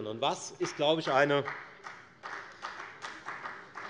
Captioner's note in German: Beifall bei der FDP